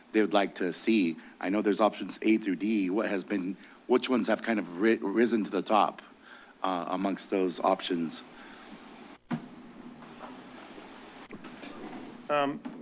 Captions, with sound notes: they would like to see. I know there's options A through D, what has been, which ones have kind of risen to the top amongst those options? [rustles]